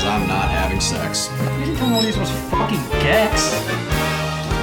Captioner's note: beep